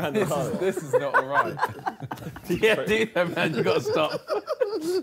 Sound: all laughing

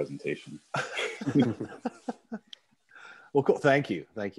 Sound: laughs

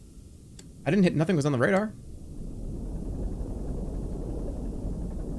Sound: machine whirring

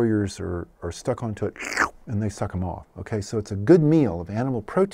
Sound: slurp noise

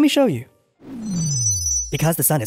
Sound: sound of magic wand

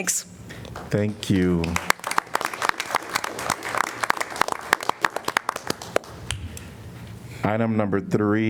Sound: applause

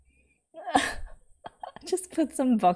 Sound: laughs

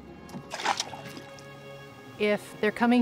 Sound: splash

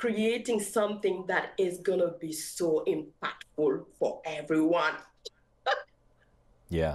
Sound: giggles

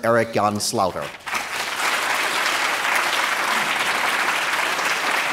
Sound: applause

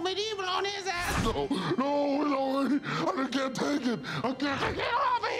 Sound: deep voice

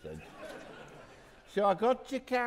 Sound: audience laughing

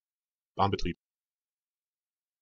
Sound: fast Pronunciation

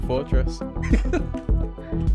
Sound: chuckles

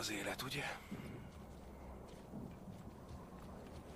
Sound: aircraft engines humming

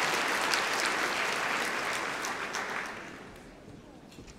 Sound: applause

